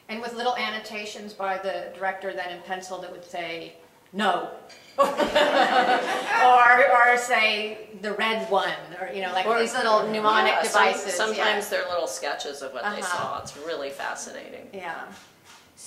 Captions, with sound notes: >> And with little annotations by the director then in pencil that would say, no! >> [LAUGH] >> Or say, the red one, or these little mnemonic devices. >> Sometimes they're little sketches of what they saw, it's really fascinating. >> Yeah.